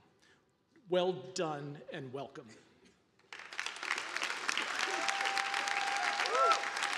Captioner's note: audience applauding